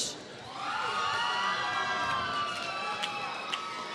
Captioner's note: applause